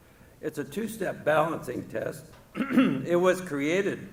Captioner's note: clears throat